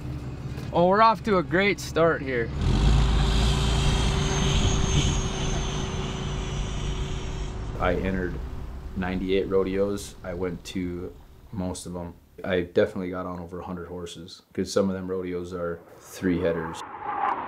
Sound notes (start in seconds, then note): 3.1 engine revving